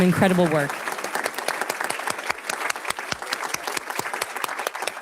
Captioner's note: audience applauds